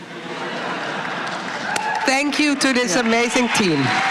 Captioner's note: applause